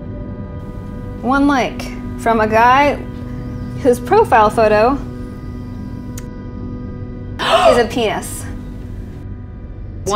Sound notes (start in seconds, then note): 7.4 gasp